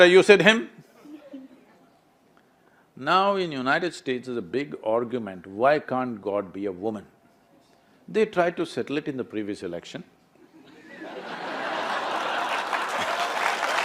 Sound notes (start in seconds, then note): 10.6 laughter/Applause